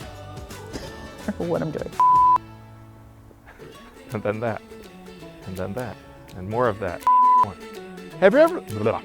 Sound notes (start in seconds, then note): 0.6 laughing; 2.0 beeping; 7.0 beeping